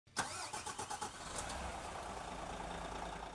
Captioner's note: engine starts